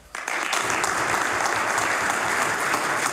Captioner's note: applause